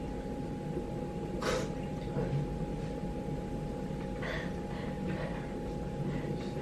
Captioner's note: crying